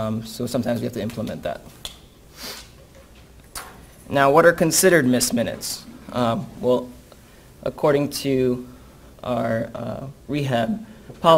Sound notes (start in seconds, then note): none